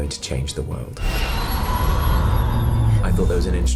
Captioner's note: magical tinkling